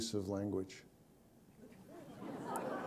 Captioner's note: laughter